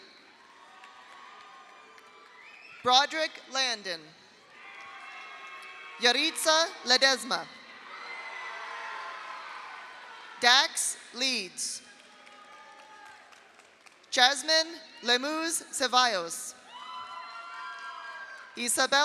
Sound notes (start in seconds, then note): 0.4 audience applauds; 0.4 audience cheers; 4.5 audience cheers; 4.6 audience applauds; 7.8 audience cheers; 7.9 audience applauds; 11.9 audience applauds; 12.0 audience cheers; 16.6 audience cheers; 16.7 audience applauds